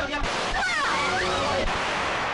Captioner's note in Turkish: Silah sesi